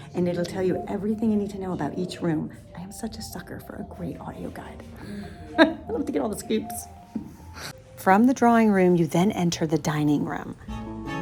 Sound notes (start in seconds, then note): 5.0 laughing